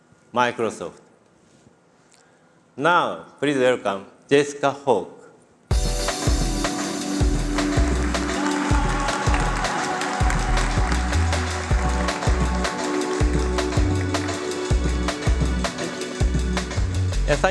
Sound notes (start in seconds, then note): 5.7 applause